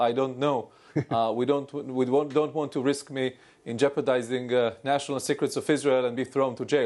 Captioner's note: laughter